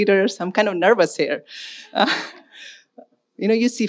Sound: chuckles; audience laughing

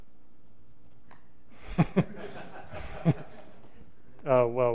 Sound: laughter

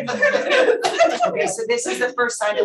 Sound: panelists laughing

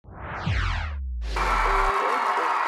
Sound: crowd cheering

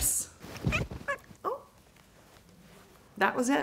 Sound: Bloopie meowing

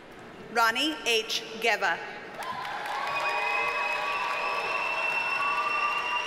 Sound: audience cheers and applauds

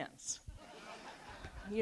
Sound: audience laughs

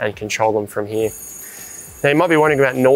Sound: bell ringing

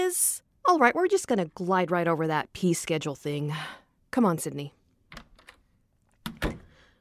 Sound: door opens

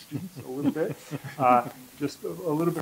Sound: laughter

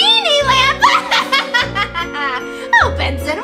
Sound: evil laughter

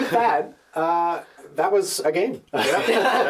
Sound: laughter

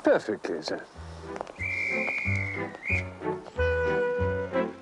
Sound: whistle for train departure

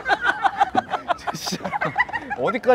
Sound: laughing

